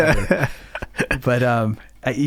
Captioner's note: laughing